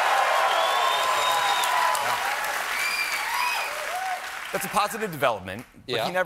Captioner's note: cheers and applause